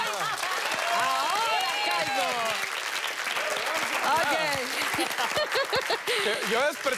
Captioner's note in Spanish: Risas